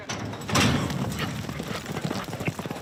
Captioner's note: gates clanking; horse hooves cantering